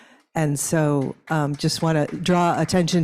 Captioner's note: audience applauds